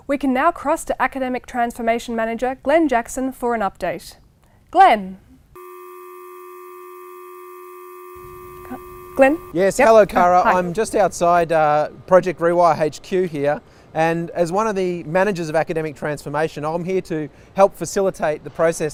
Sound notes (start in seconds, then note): 5.5 buzzing